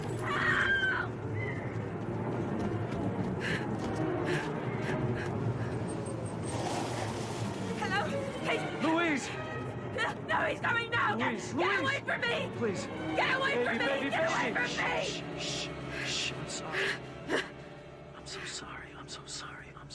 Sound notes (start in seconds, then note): 3.4 Louise gasping for breath; 3.8 car breaks squealing